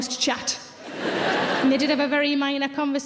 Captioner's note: audience laughs